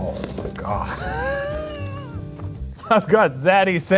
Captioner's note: laughing